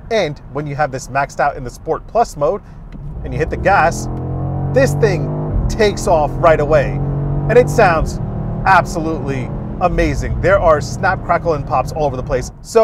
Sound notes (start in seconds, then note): 6.7 car engine revving